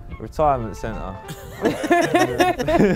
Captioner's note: laughing